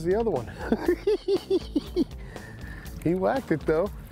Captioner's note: chuckles